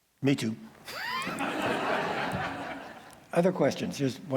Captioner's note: laughter